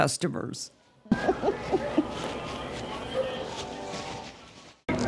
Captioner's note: laughing